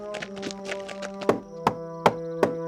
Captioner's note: knocking